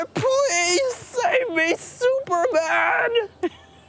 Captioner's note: laughter